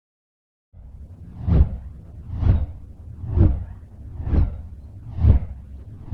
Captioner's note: rhythmic whooshing sounds